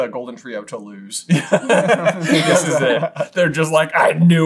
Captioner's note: laughter